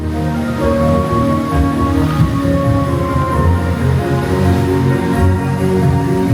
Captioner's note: bright music; water splashing